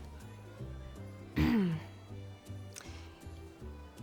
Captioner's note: clears throat